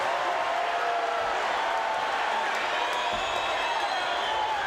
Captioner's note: crowd cheers